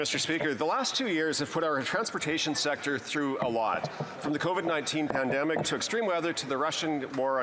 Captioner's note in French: voix de l'interprète